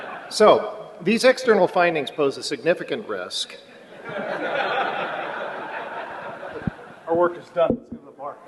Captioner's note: laughter